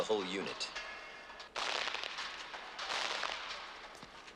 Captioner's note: gunfire